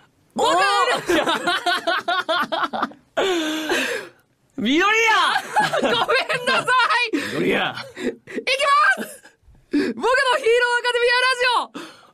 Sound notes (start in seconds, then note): 3.2 inhaaales